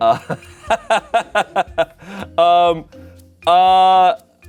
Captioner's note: laughs